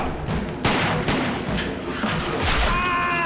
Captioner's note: gun fire